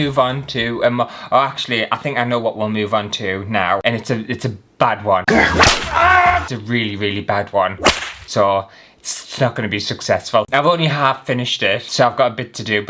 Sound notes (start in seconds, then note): 5.4 whip Crack!; 7.8 whip crack!